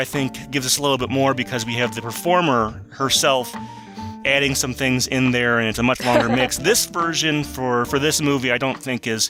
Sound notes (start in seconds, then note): 6.0 laughs